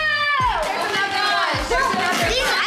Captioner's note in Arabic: أطفال يثرثرون